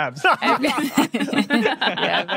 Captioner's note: group laughing